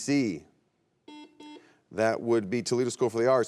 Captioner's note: buzzer beeps